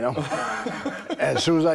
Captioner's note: Rick and Bron laughing